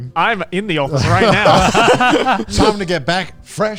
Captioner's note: all laughing